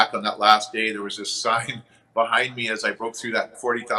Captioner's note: chuckles